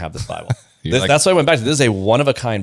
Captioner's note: laughs